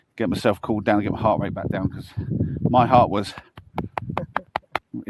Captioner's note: thud, thud, thud